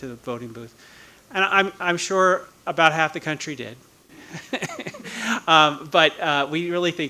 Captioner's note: laughing